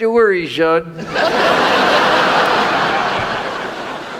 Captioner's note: audience laughs